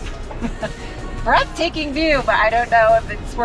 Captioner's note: laughs